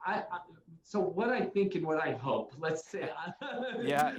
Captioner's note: laughs